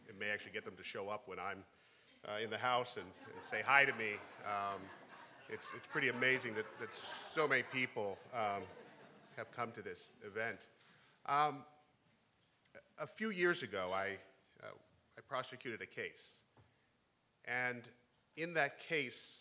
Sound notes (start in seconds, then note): 5.1 crowd; 5.1 laughing